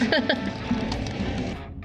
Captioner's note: laughing